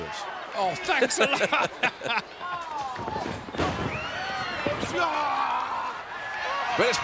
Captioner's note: laugh